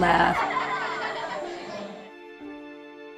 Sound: laughter

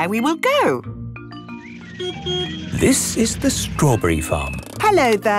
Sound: beeps

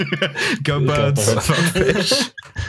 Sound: laughter

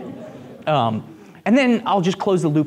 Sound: group laughs

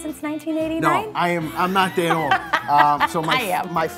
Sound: laughs

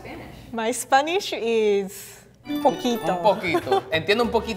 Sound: speaking in foreign language

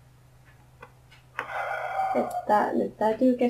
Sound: sighs

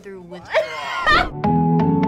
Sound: laughs; upbeat music

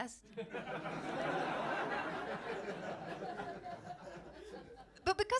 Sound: laughter

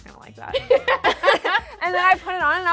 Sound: laughs

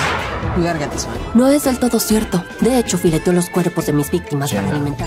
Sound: speaking LATAM Spanish

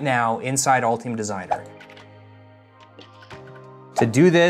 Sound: light music; text whooshing

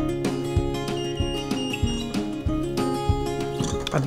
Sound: beeping

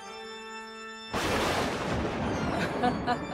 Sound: thunder claps

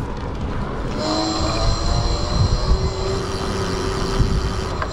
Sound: bike motor revving

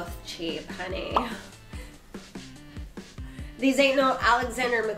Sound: pop up sound

